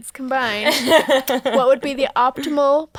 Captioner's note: laughing